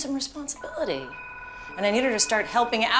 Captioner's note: phone rings